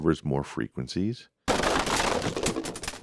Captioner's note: crashing